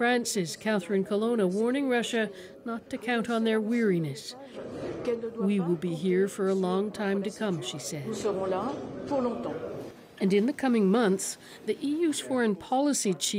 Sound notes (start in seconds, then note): 10.1 speaking alternate language